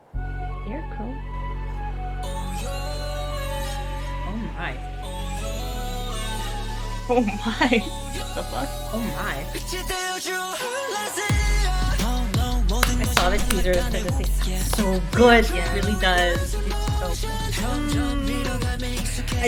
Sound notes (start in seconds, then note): 12.8 claps